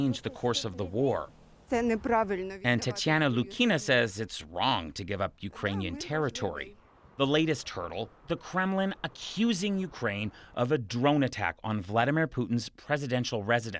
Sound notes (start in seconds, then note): 3.2 speaking alternate language